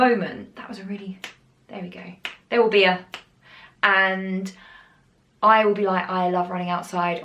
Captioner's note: snaps fingers badly; snaps again; snaps fingers